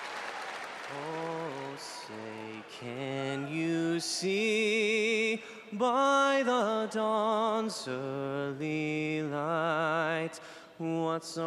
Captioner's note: cheering and Applause